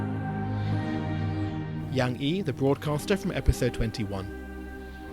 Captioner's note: voiceover